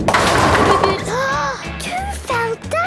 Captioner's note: giggling, Peppa gasping